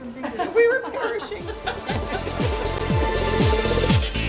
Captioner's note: laughter